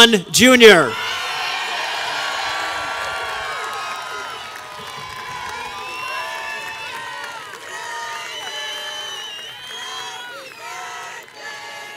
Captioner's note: applause and audience singing "happy birthday to Eric"